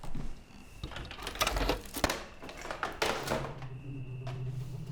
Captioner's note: tape rattles; sinister music